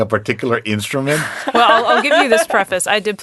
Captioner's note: laughing